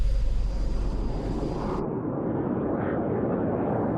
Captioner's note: plane whooshing